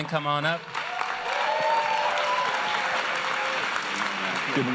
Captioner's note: applause